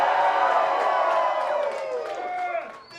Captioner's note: crowd hollers